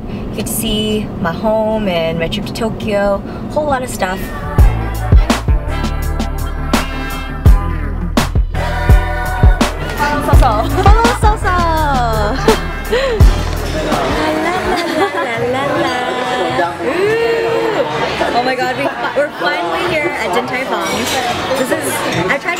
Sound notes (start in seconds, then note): 4.5 chill music; 10.5 speaking in foreign language